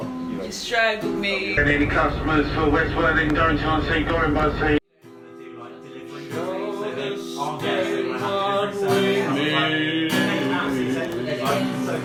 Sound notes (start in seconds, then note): 1.5 loud public announcer; 5.0 accoustic guitar singer; 6.5 group voices talking; 7.8 accoustic guitar singer